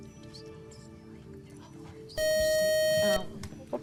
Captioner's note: buzzer